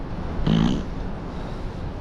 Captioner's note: fart sound